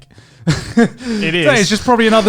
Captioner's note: chuckles